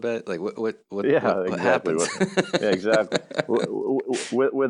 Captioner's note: laughs